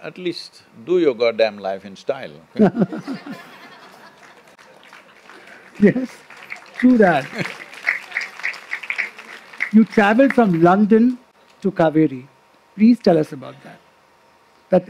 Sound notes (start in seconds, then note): 3.0 laughter/Applause; 7.3 applause